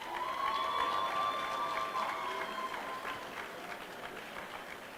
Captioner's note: applause